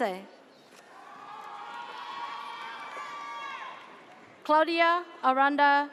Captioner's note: audience cheers